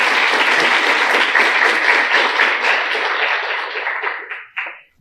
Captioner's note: applause